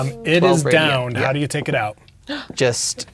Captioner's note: gasps